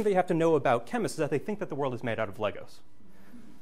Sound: background laughter

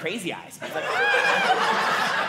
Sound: audience laughing

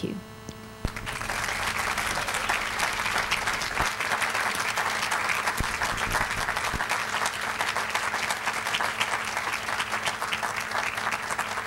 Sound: applause

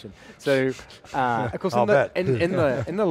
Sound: laughing

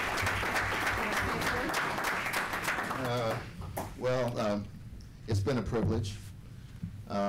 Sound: applause

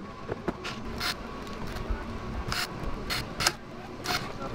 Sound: tool whirring

